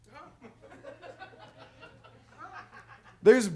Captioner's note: audience laughs